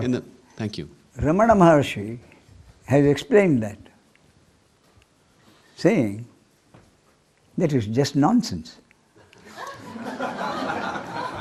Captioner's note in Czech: smích